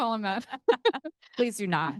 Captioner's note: laughing